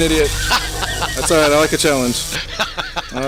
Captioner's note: laughing; still laughing